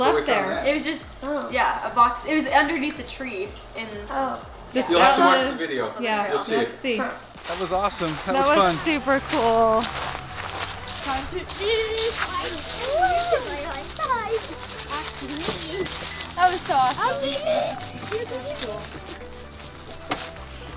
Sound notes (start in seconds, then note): 12.5 children chatting; 18.0 happy music